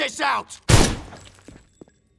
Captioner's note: gunshot